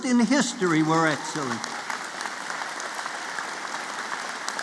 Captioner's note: applause